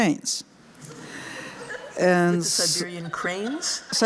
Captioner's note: laughter